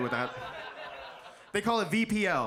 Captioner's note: audience laughs